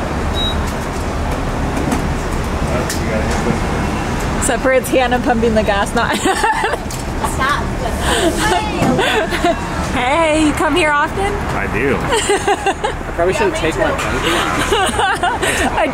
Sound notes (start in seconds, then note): 7.2 laughs; 12.3 laughing